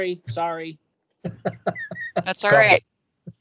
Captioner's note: laughing